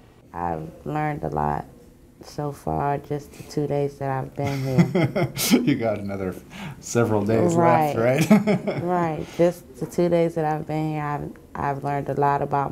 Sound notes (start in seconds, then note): 7.5 laughing